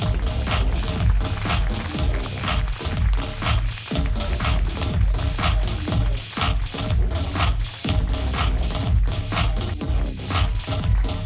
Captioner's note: applause